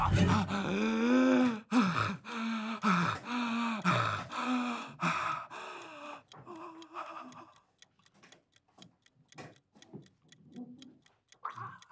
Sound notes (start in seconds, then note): 0.0 Carlos gasping; 7.6 timer ticking